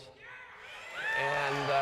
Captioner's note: cheering and applause